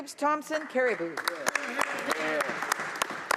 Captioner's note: some Applause